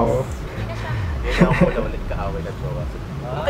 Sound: giggles

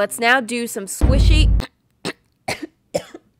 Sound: coughs to her death

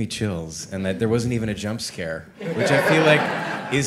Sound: all laughing

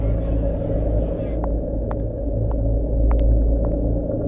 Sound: footsteps

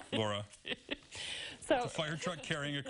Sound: laughter

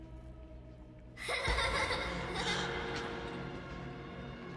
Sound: kids' happy giggling sound

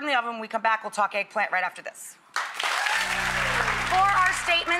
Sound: audience applauds

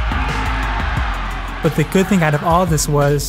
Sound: shouting

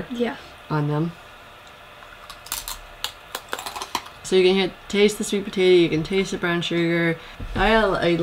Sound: crunch

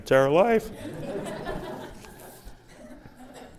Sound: laughter

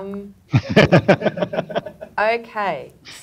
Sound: panelists laughing

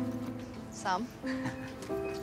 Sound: chuckles

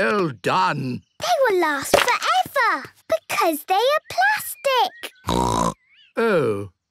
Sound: snorting

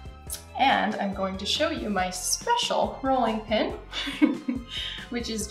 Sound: giggles

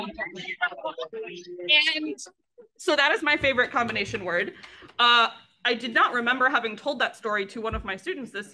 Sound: laughs

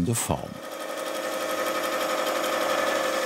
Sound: rattling, whirring

